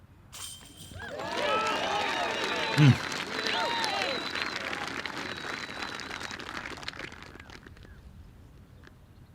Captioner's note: cheering